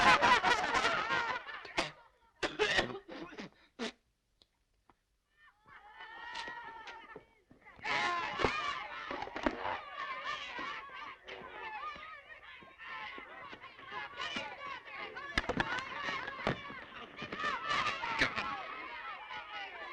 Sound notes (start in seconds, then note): 1.8 coughing; 8.1 screaming